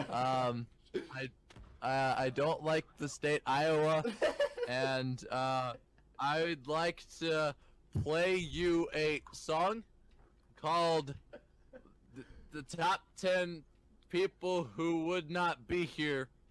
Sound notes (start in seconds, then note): 3.6 laughs; 6.1 hesitantly